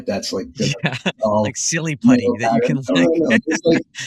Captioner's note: laugh